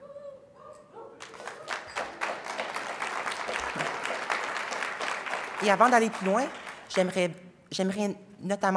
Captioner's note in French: applaudissements